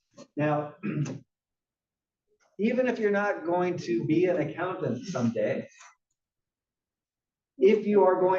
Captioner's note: cough